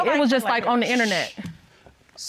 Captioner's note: shushes